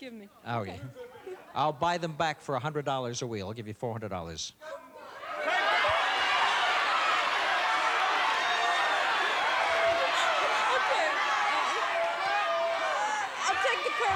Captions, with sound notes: -Oh, yeah. I'll buy them back for $100 a wheel. I'll give you $400. (audience shouting) -Okay. I'll take the curtain.